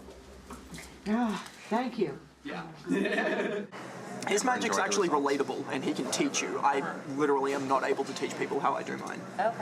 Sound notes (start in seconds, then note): 2.9 laughs